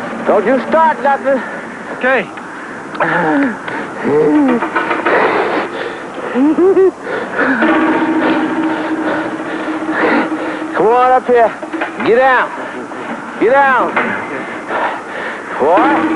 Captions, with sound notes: --Don't you start nothin'! --Okay! --(panting and giggling) C'mon up here. Giddown. Giddown! --Okay. --Boy!